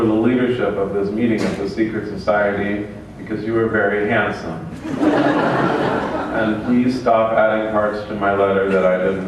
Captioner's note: laughter